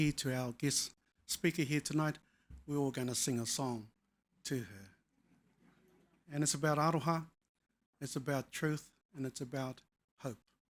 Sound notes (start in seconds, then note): 6.9 speaking foreign language